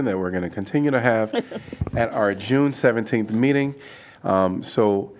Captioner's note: laughter